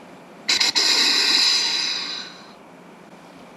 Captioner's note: snort wheeze